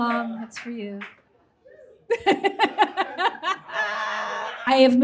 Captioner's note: bursts out laughing